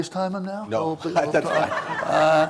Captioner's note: laughter